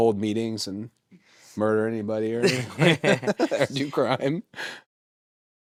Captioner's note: laughs